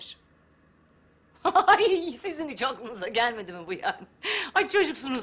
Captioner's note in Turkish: Gülme sesi